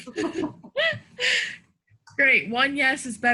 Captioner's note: laughs